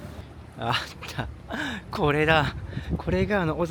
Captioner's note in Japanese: 笑い